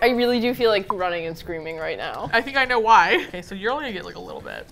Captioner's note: laughs